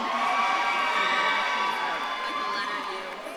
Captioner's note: audience claps and cheers